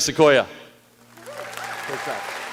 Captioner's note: applause